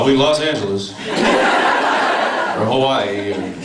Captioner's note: laughs